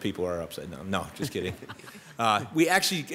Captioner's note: members laughs